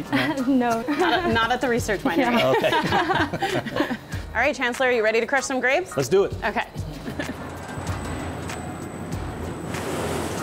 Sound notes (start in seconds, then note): 2.2 laughter